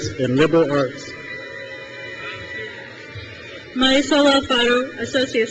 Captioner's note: crowd cheers